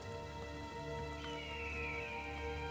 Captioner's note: birds screeching